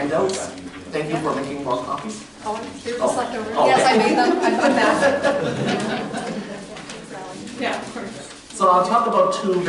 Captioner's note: chatter, laughter